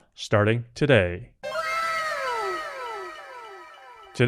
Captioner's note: anime "wow!" sound effect